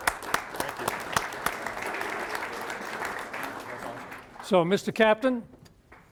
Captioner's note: applause